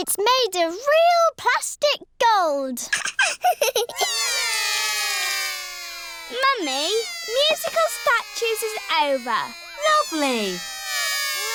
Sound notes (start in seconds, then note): 2.9 laughs; 4.1 all cry